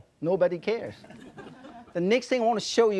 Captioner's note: audience laughing